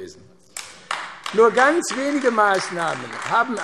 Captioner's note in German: Vereinzelter Beifall AfD